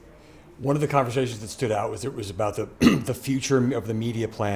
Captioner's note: cough